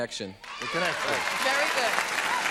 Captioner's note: applause